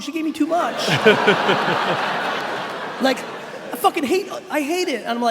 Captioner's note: laughing